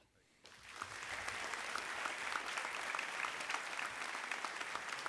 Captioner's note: audience applauding